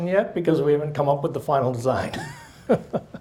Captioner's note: laughs